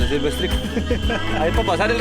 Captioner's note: laughs